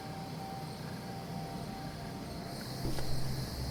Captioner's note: insects chirping